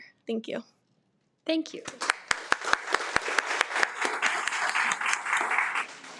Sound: attendees applaud

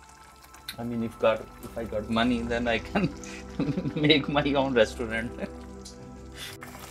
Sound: laughs

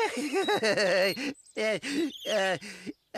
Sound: laughing

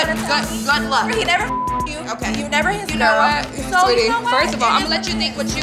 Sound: beep

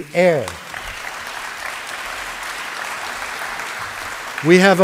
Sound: applause

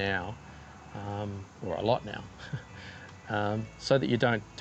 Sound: laughs

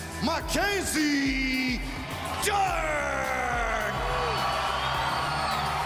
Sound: speaking foreign language

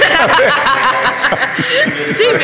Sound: rep laughs

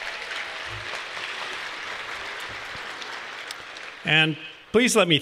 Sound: applause

